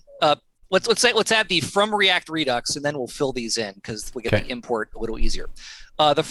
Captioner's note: audio cutting out